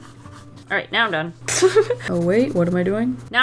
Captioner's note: laughs